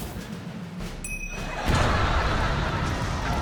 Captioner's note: ting!